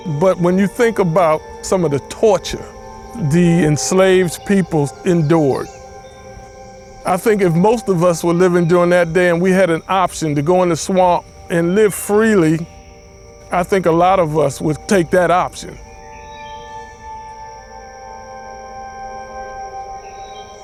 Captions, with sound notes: But when you think about some of the torture the enslaved peoples endured, I think if most of us were living during that day and we had an option to go in the swamp and live freely, I think a lot of us would take that option. (birds chirping)